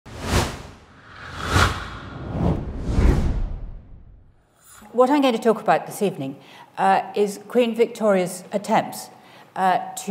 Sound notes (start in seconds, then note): 0.0 title swooshing